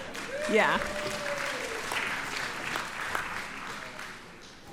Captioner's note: audience applauds